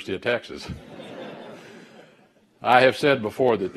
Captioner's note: laughter